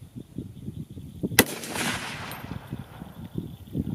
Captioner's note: gun fires